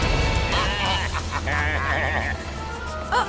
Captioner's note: baaing